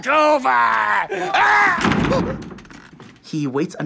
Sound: screaming

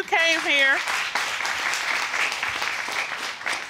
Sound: audience applauding

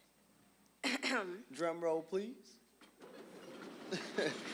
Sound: clearing throat; audience laughing

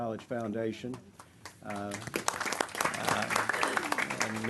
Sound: clapping

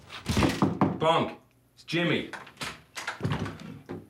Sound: knocking

